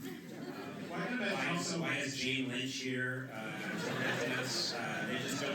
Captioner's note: laughter